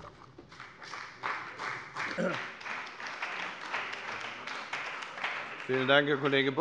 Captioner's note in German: Beifall bei dem BÜNDNIS 90/DIE GRÜNEN und der CDU